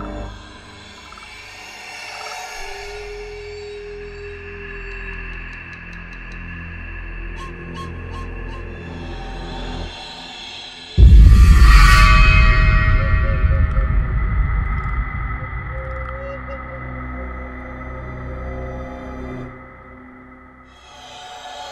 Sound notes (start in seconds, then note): 0.3 haunting music; 11.0 whoosh; 13.5 haunting music